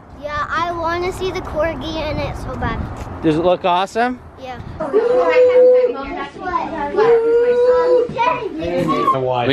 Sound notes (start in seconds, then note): 4.9 people talking